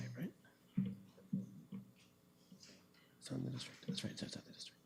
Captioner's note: whispering